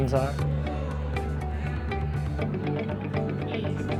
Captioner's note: crowd chattering